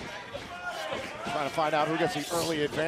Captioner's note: cheers and applause